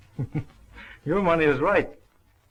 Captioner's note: chuckles